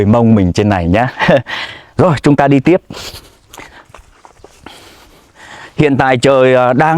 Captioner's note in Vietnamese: khịt mũi